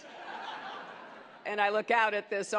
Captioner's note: laughter